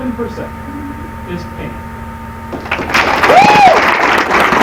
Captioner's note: applause